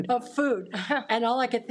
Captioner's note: audience laughs